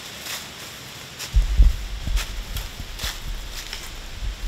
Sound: leaves crunching

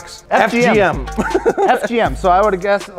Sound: laughs

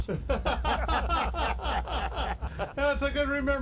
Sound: all laughing

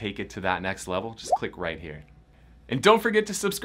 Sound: bubble pops

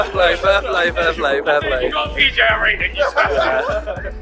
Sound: all mumbling

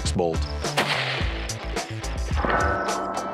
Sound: rifle firing; upbeat music

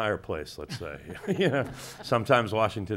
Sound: people chuckling

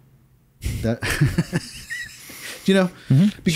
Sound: laughing

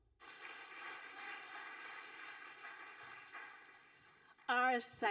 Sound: audience applauding

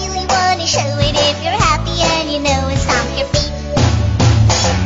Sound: stomp stomp

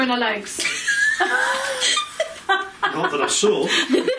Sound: laughing

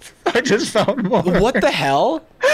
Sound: laughing

